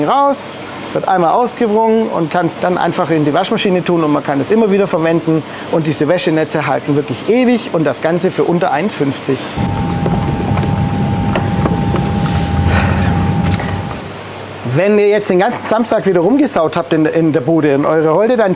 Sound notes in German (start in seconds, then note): 9.6 fön-geräusch; 9.8 Applaus